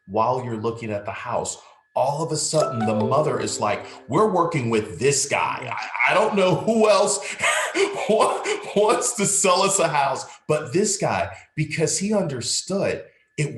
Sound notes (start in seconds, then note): 9.6 laughing